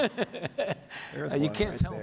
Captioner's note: Dr. Fauci laughs